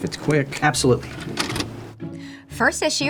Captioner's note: videotape pauses